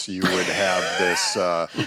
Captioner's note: laughter